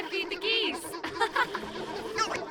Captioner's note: contented laughter